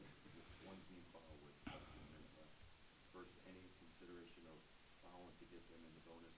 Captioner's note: man speaks off mic